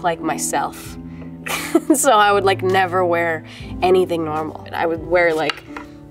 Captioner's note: laughs